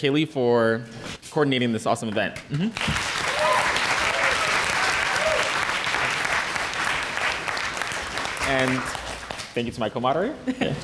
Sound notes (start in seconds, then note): 2.7 applause